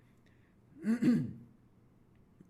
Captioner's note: cough